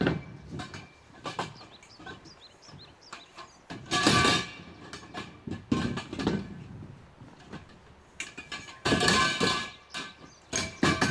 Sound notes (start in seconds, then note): 0.0 clanging metal sounds; 6.0 birds singing river echoing